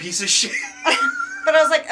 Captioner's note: laughing